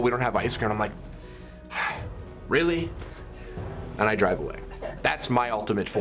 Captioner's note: sharp sigh